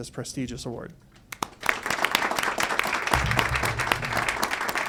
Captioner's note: audience applauds